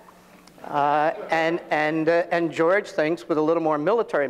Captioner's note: audience laughing